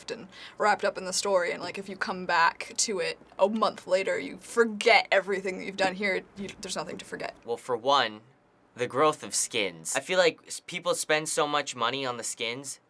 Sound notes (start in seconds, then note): none